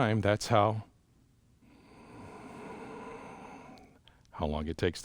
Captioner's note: breathes out